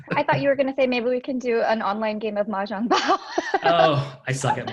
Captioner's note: laughing